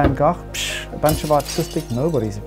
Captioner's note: glass breaking